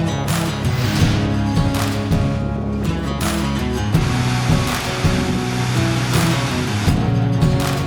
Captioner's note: applaue